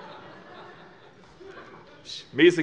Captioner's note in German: Heiterkeit